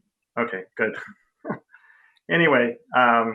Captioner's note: laughing